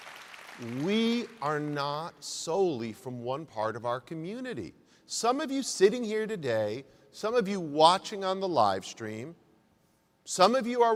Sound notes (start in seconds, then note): 0.0 applause